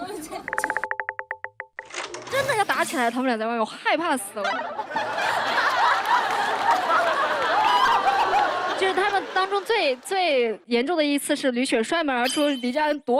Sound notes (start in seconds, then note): 5.0 burst out laughing